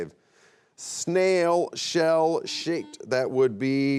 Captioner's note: buzzer beeps